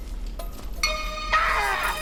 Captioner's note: screams